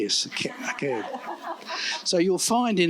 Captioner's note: laughter